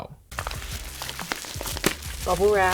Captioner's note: packaging rustling